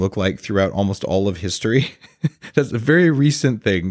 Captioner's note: laughs